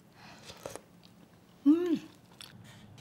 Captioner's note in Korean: 후루룩소리